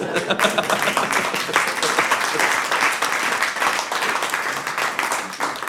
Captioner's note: audience laughs; audience applauds